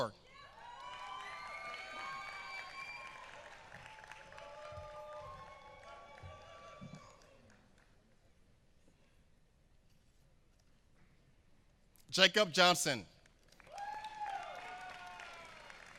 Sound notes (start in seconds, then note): 0.5 applause; 13.2 applause